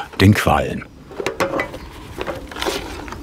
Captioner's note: rumbling